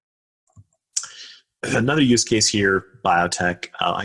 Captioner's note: coughs